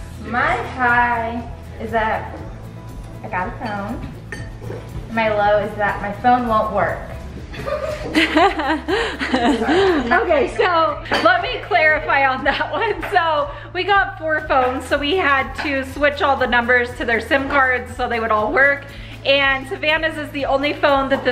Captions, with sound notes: - My high is that I got a phone, my low is that my phone won't work. (laughs) - Okay. So let me clarify on that one. So we got four phones, so we had to switch all the numbers to their SIM cards. So they would all work and Savannah's is the only phone that